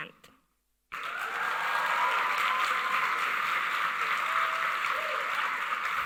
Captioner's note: audience cheering and applauding